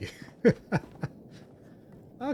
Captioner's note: laughs